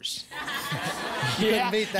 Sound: laughter

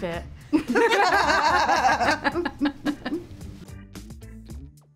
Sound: Olivia and Emma laugh

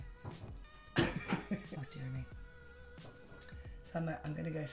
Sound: laughs

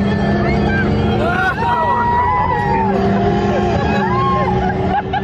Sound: laughs

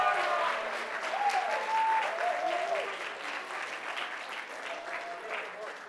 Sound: cheering; applause

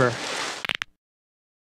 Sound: sliding noise; bone crack

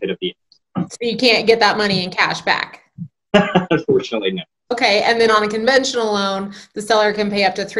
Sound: laughs

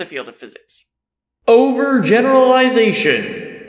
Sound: voiceover

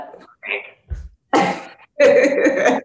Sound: laughs

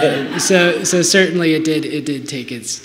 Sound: laughter

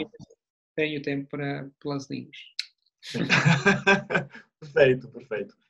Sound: laughter

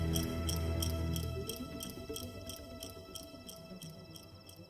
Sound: crickets chirping

